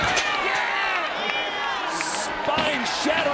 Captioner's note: chair clatters; crowd shouts and cheers